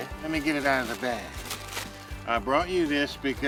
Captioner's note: bag crinkling